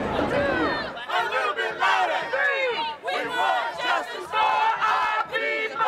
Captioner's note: chant